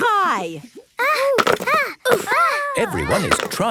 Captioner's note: all grunting